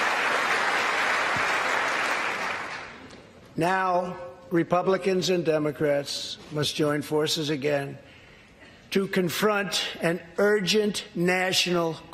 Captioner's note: applause